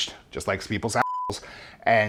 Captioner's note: beep